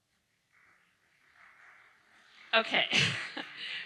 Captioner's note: audience applauding